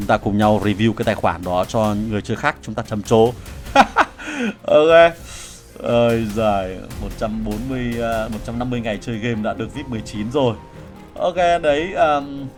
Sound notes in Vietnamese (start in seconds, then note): 3.7 tiếng cười